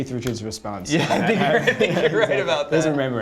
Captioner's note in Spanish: risas